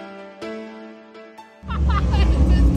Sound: piano music; vacationer laughs

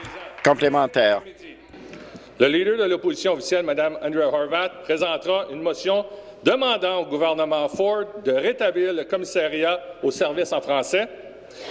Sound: applause

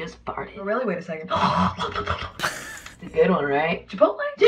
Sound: rasps, flaps tongue; snickers

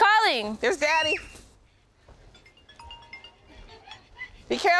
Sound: screams

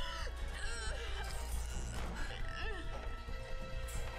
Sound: groaning

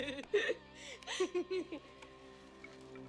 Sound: both laugh

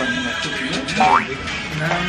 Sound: gulp

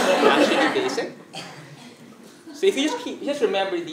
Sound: laugh

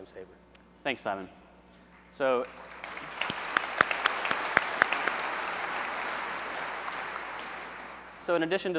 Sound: applause

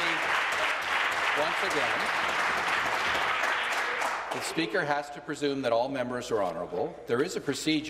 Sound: applause

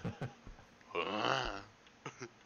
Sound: moans

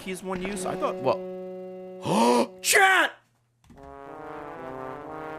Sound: gasps

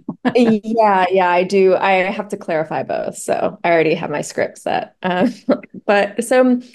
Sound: laughter; laughs

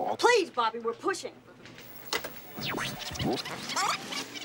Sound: tape rewinding

